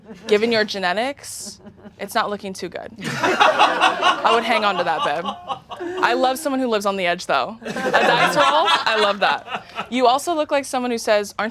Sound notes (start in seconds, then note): 3.0 audience laughing